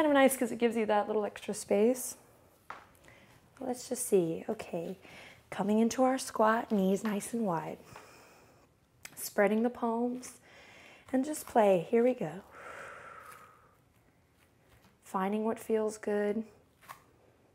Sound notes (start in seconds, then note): 7.8 inhales; 12.4 exhales